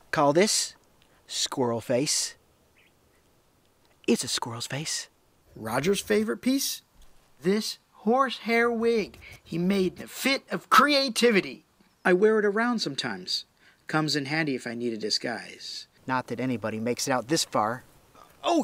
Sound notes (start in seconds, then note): none